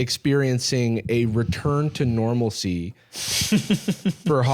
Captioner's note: chuckles